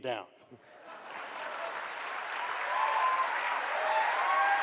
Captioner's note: applause